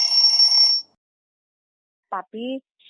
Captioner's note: bell rings